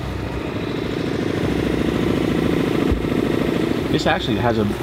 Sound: boat motor humming

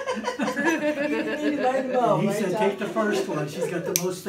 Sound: laughs

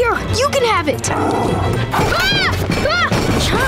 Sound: growling, screaming

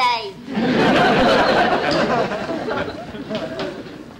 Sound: audience Laughing

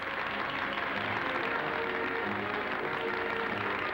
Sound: applause

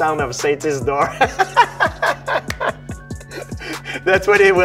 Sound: Georges laughs

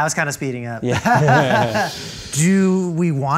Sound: laughter

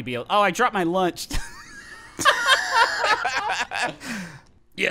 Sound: laughing

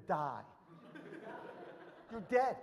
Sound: audience laughs

